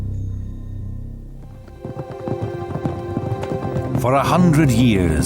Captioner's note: horses trotting